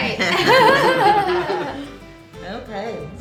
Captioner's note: laughing